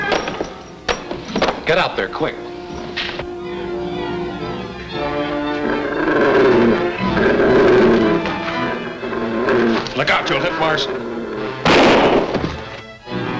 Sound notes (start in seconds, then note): 4.8 devil growls; 5.2 ominous music; 11.6 gun bangs